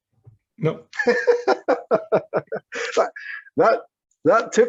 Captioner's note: laughing